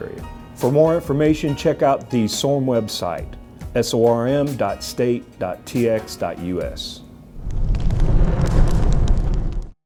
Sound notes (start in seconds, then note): 7.3 fire Crackles